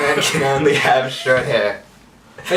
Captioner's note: all laughing at again